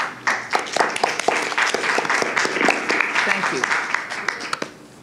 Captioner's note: applause